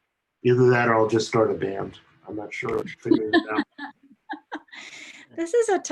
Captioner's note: laughter